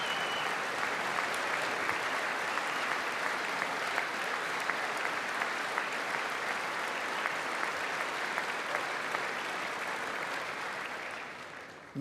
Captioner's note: applause